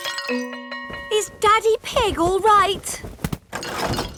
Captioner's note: none